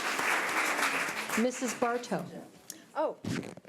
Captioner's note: audience applause